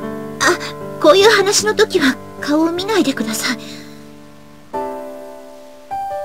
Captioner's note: rain